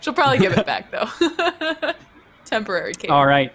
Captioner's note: laughs